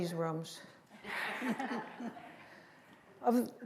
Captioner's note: laughter